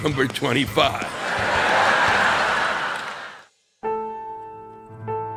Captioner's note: audience laughing; soft instrumental music